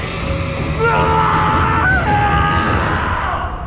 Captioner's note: scream